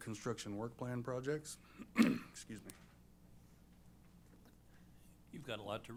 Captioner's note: clears throat